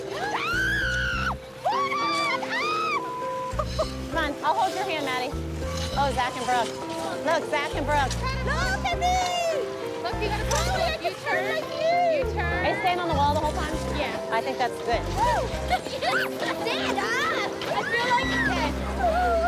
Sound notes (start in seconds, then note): 0.0 shrieks; 2.0 squeals; 16.7 laughs